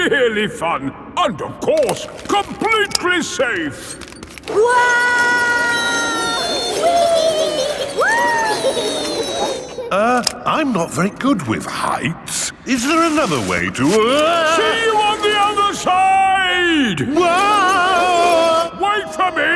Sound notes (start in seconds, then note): 5.0 all yelling; 17.9 yelling